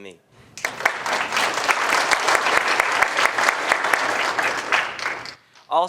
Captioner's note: applause